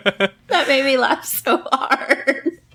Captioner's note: laughs